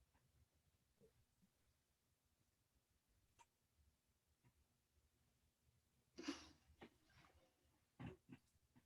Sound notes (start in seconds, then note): 6.2 inhales